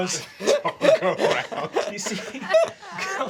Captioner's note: laughing